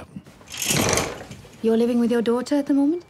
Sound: curtains clicking

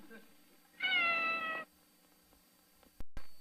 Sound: Mimsie mews

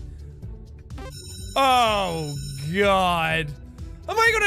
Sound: bell rings

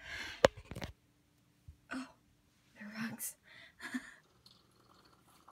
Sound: laughs

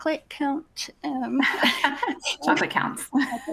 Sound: laughs

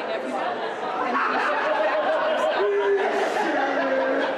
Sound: laughing

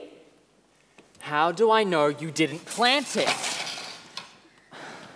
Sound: racquets fall to the ground

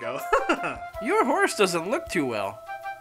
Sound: laughing

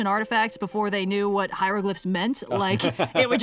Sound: laughs

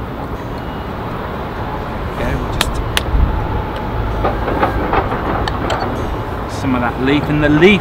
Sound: tapping infuser

